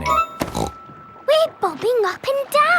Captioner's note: snorts